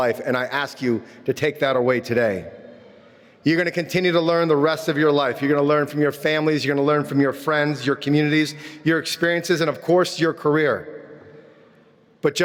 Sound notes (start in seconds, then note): none